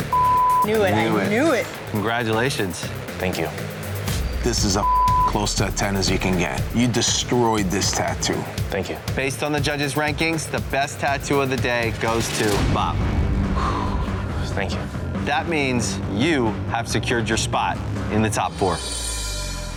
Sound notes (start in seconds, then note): 13.4 exhales